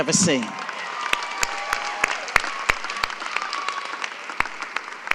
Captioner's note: audience applauding